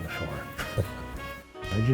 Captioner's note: chuckles